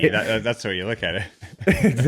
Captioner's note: laughs